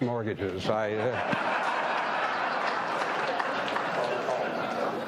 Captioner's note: audience laughing